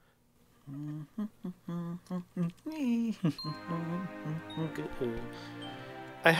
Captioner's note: humming